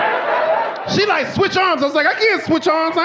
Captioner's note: audience laughing